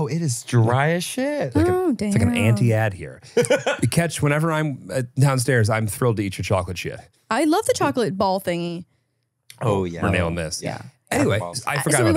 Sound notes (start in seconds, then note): 3.0 laughs